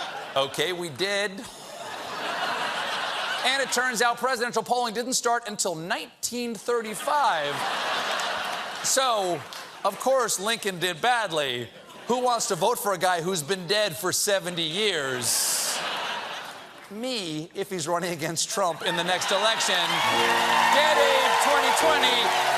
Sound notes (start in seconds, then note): 7.0 laughter